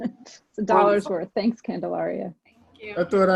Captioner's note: laughs